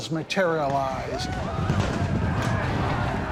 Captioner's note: whooping; gunfire